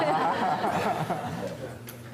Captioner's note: laughter